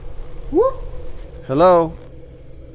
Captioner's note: hoots